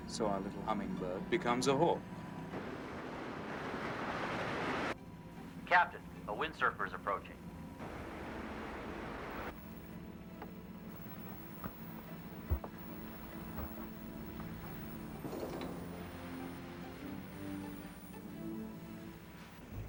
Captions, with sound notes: - So our little humming bird becomes a whore. - [Man On Radio] Captain, a wind surfer's approaching. (ominous music)